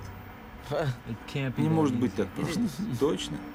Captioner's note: chuckles